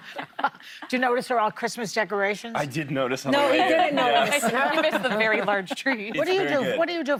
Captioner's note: laughter